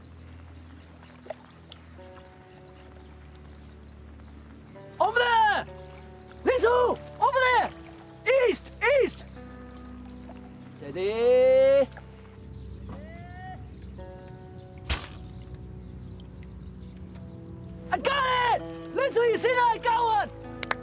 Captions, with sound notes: Over there! Li Si, over there! East! East! Steady. There! (crossbow thuds) I got it! Li Si, you see that? I got one!